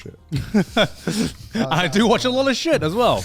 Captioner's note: laughs